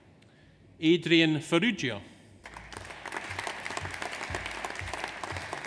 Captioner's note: audience applauds